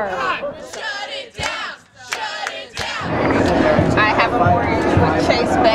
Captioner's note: chant